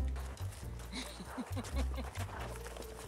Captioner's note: laughs; bright rhythmic jazz music